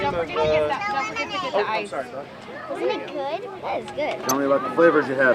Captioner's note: chatter